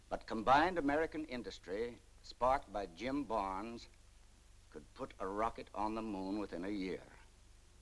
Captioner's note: none